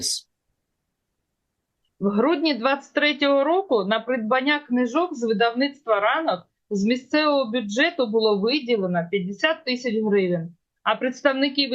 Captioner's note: foreign language